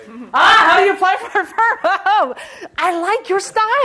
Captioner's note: laughs